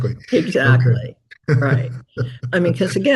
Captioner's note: chuckles